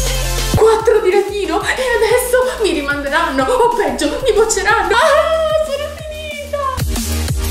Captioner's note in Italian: verso di disperazione